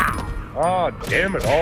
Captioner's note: kicks